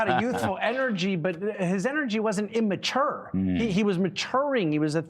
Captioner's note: laughter